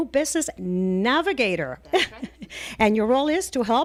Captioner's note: Hablando ingl\s